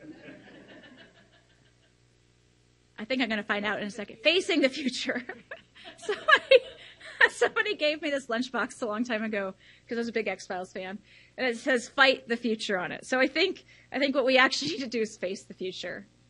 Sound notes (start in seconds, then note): 0.0 audience laughs; 4.7 laughs